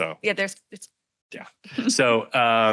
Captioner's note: radio interference drowns out speaker